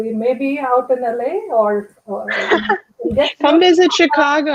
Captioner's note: laughter